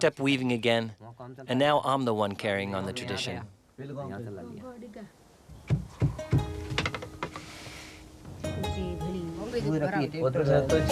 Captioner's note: non-english speech